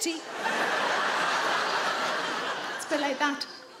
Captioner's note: audience laughing